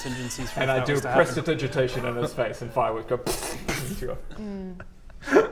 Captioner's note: belittling laughter; pftfptppffffpt